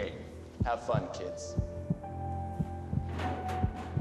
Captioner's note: heart beating